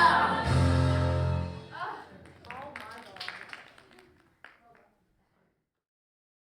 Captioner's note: applause